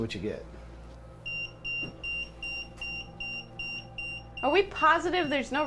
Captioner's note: EMF beeping